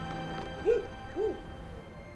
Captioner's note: dog barking